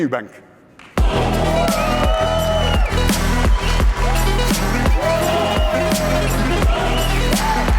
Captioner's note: applause/music playing